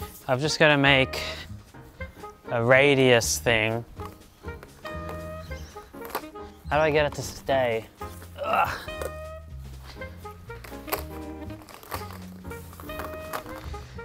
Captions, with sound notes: I'm just going to make a radius thing. How do I get it to stay? (grunts)